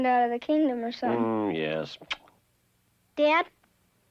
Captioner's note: kisses son